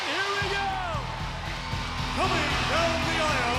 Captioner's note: crowd cheers; electric rock music